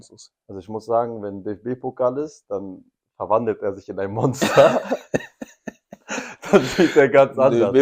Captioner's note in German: gelächter